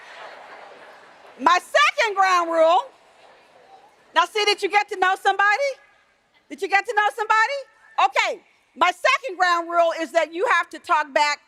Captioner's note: room chatter